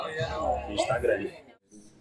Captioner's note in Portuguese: barulho da plateia se dispersando ao fundo